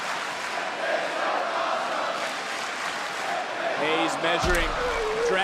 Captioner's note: crowd chanting